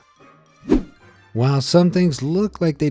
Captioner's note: image whooshing